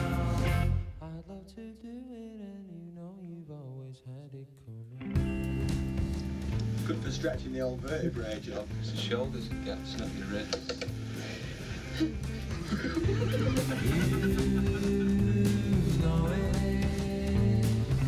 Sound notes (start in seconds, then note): 11.8 laughter